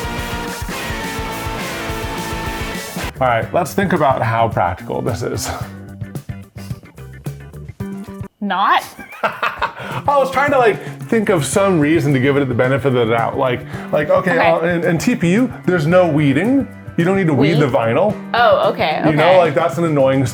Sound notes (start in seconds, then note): 6.2 upbeat music; 8.8 laughs